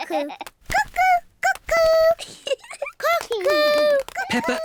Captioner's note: laughs; giggles